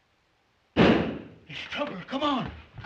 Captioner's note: gunshot